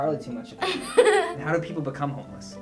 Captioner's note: laughter